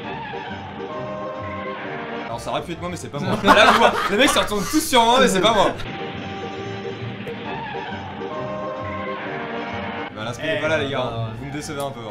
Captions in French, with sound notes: Alors ça aurait pu être moi mais c'est pas moi *Rires* Les mec se retournent tous sur moi, mais c'est pas moi. Bah voilà l'inspi les gars... vous me décevez un peu